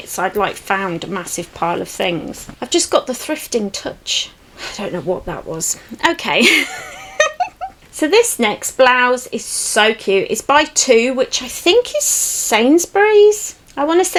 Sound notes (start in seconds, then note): 6.4 giggles